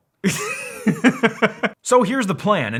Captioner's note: laughing